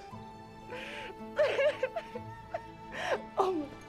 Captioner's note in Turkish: Ağlama sesi